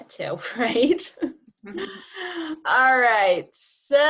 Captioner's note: chuckling